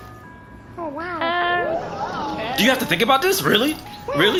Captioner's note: pondering noises